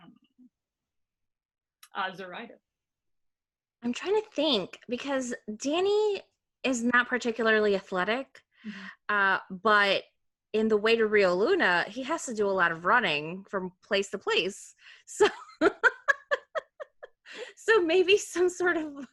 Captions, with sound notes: I'm trying to think because Danny is not particularly athletic but in The way to Rio Luna he has to do a lot of running from place to place. (laughing) So maybe some sort of